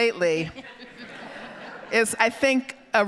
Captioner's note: audience laughing